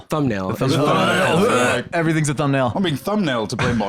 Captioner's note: gags